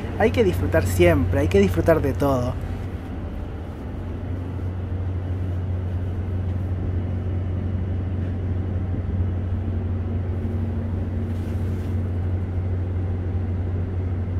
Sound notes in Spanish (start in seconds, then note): 5.7 sonido ambiente del bus